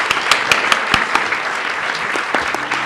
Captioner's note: applause